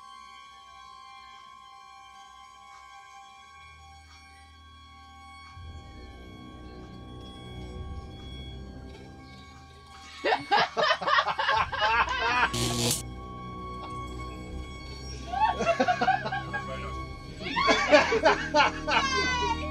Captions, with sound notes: (Laughter) (Laughter) It's very nice! (Laughter)